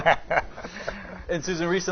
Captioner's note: laughing